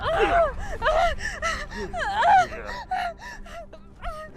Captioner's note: person grunting